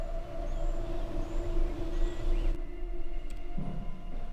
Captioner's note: birds chirping